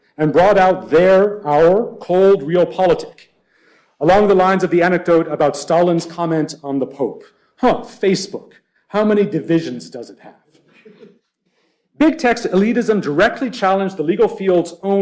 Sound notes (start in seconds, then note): 10.6 laughter